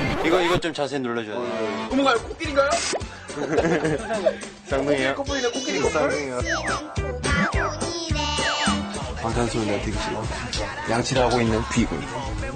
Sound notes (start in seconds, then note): 3.3 giggles